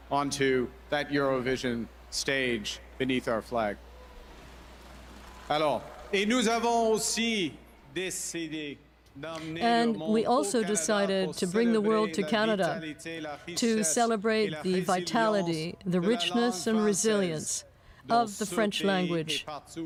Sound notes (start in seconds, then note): 16.3 speaking French